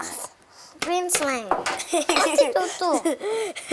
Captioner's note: laughs